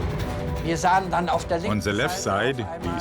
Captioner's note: speaking in foreign language